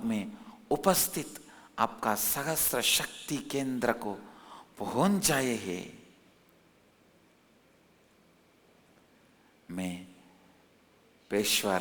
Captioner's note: hindi